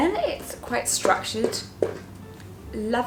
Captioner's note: knock knock